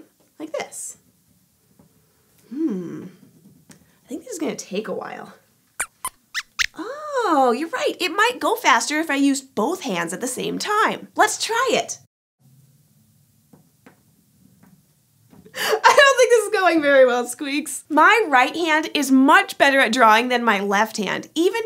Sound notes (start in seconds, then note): 5.8 squeaks squeaks